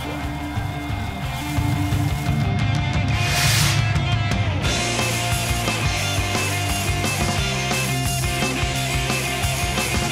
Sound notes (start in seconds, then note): 0.8 firework hissing; 1.2 rock music; 3.0 firework hissing; 4.7 rock music